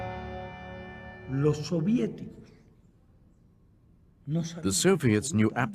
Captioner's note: speaking spanish